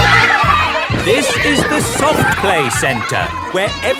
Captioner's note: loudly over shouting